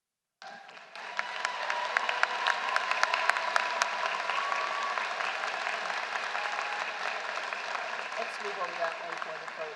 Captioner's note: applause